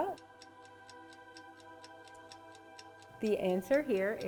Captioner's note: clock ticking